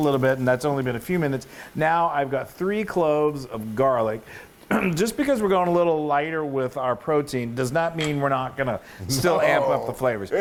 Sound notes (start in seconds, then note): 4.6 cough